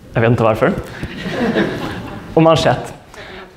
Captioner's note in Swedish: skratt